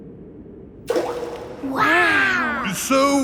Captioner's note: rock plops